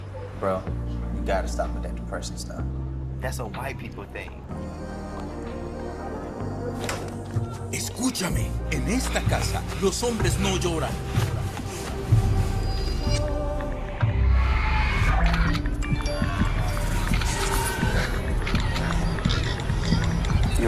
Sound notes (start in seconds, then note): 6.3 instrumental music; 6.3 speaking in foreign language; 6.8 door opening; 11.7 instrumental music